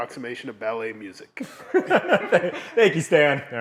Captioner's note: laughing